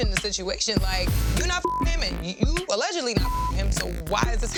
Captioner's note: beeps